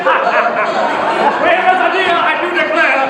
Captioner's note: laughs